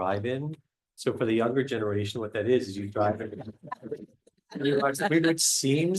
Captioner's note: laughter